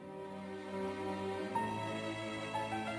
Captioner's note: speaking in French